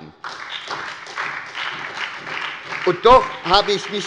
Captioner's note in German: Beifall bei der SPD und der FDP